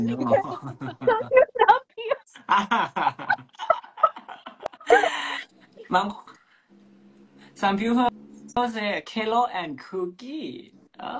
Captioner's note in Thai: เสียงหัวเราะ